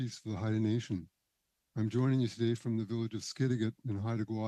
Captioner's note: speaking Indigenous Language